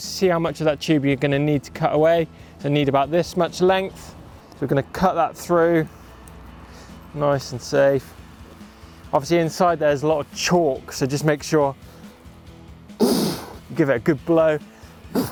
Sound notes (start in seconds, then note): 13.0 blowing